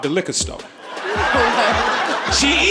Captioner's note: audience laughing